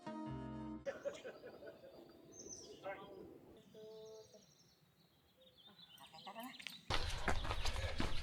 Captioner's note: birds chirping